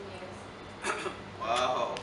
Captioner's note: clear throat